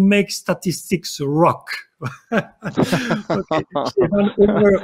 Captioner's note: laughing